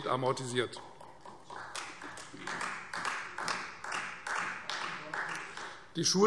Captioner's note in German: Beifall Freie Demokraten und vereinzelt SPD